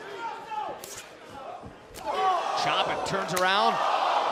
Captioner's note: crowd chatter